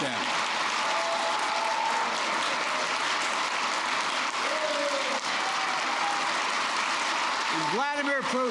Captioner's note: applause